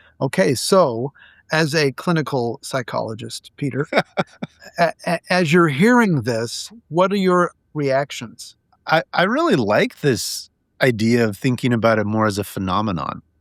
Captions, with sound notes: Okay, so, as a clinical psychologist, Peter, (laughing) as you're hearing this, what are your reactions? -I really like this idea of thinking about it more as a phenomenon.